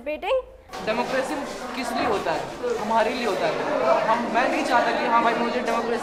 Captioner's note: student speaks in foreign language